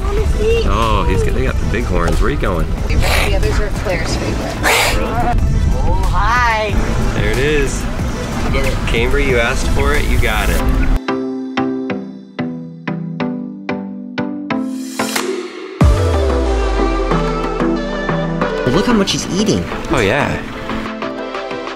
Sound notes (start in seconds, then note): 4.6 hissing; 11.8 upbeat music